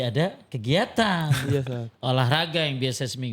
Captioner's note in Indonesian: tertawa